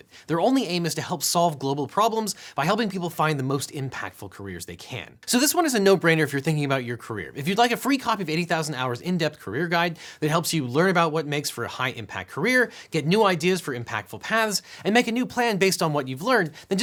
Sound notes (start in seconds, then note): none